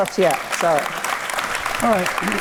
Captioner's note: audience applauds